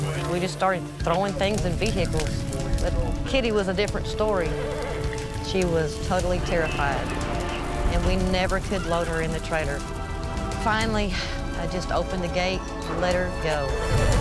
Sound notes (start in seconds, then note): 0.0 crackling; 0.0 emergency radio chatter; 4.5 neighs; 14.0 thundering music